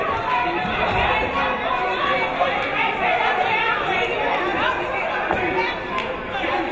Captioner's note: people talking excitedly in the crowd